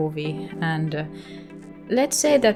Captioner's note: 𝘴𝘪𝘨𝘩